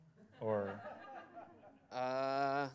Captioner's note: laughter